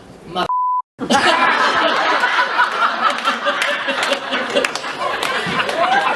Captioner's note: laughter and clapping